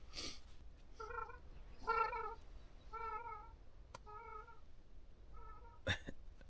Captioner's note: birds flying overhead